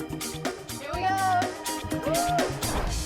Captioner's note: none